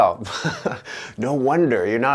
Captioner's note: laughing